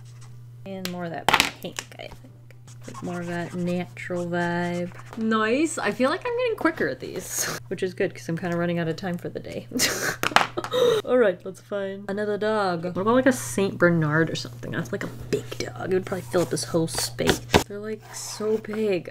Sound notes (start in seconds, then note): 10.6 laughs